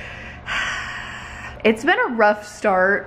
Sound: sighs

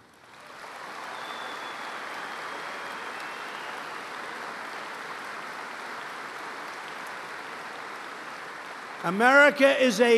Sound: applause

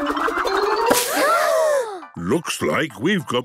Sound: all gasping

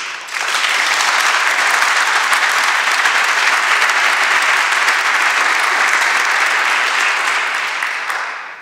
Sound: applause

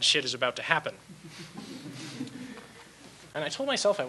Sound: audience laughs

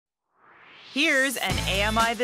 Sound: swoosh

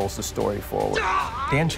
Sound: cry of pain

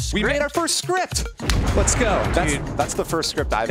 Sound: explosion noises

